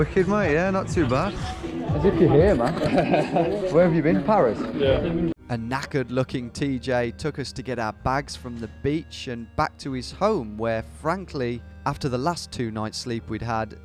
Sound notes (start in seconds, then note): 2.5 laughing